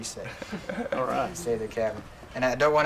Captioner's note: chuckles